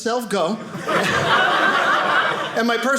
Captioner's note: audience laughing